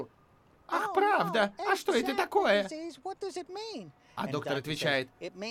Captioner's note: high-pitched voice